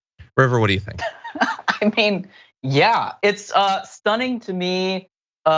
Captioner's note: laugh